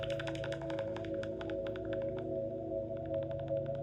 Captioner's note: bat calls fade out